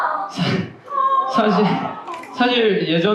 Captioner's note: struggles